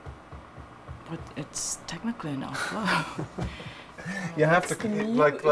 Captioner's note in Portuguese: risadas